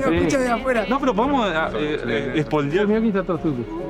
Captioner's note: in Spanish